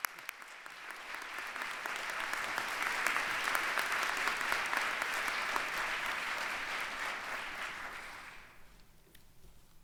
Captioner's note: applause